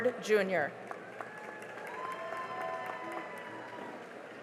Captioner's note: cheering and applause